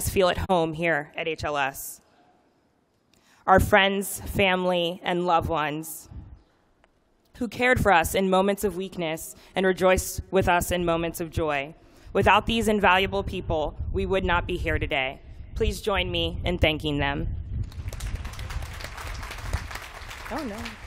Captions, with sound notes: feel at home here at HLS, our friends, family and loved ones who cared for us in moments of weakness and rejoiced with us in moments of joy. Without these invaluable people, we would not be here today. Please join me in thanking them. [APPLAUSE] Oh no.